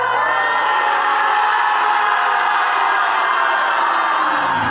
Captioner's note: loud yelling